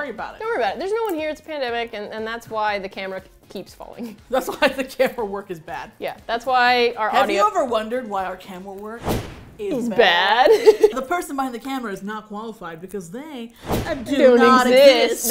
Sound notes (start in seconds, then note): 4.0 laughing; 9.0 woosh; 10.3 laughs; 13.6 woosh